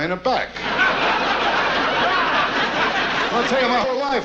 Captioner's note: audience laughs